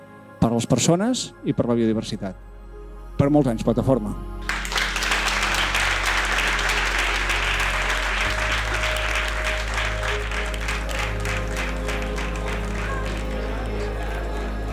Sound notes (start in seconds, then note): 4.9 applause